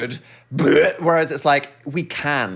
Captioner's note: Dan imitating vomiting